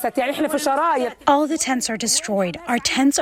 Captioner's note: through translator